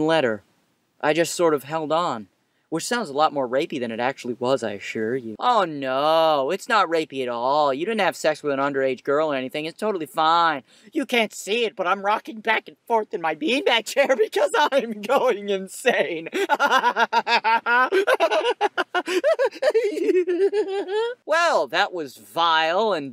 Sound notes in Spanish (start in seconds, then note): 16.2 Risas angustiosas